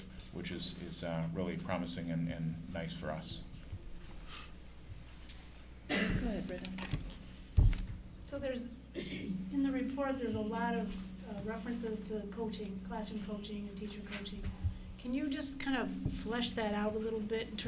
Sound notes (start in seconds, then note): 5.8 coughing